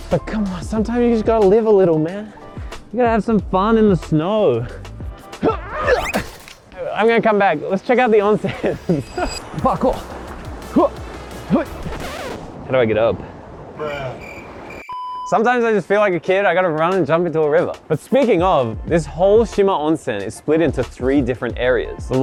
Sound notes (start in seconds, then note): 5.4 grunts; 11.5 grunts; 13.8 cricket chirps